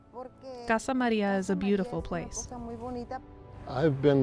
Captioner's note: in foreign language